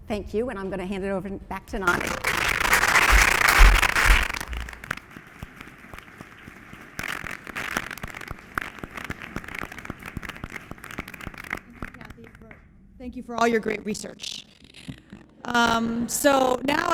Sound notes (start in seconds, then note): 9.2 applause